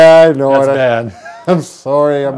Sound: chuckles

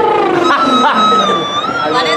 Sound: lip trills

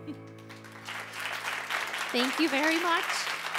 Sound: audience applauding

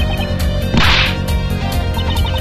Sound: offended noises

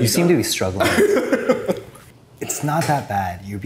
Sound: laughs

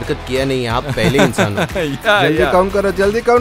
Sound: laughs

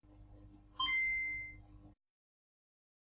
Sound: 8-bit console startup sounds

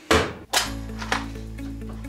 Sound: clanging; bright music; thumping

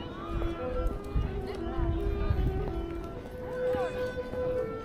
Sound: people chattering

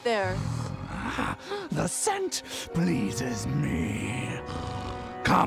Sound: snarls with glee

